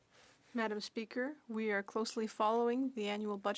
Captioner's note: speaking French